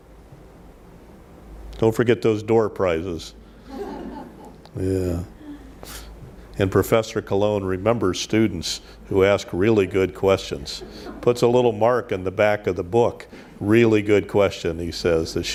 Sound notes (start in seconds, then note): 3.6 audience laughs